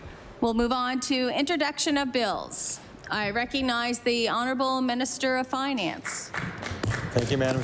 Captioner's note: applause